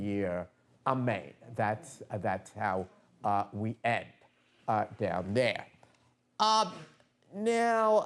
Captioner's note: non-english speech